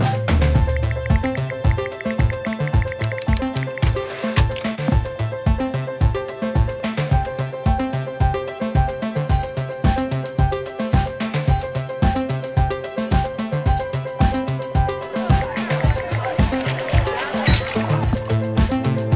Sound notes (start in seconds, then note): 3.7 typewriter sound; 15.2 sounds of mingling and drinks clinking